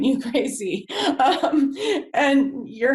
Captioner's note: laughs